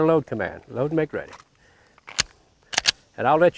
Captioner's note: gun cocking